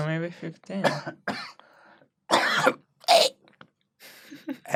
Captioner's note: coughing out his lungs